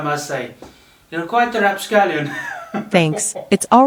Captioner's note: laughter